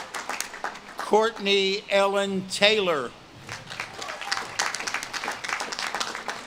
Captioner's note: audience claps and cheers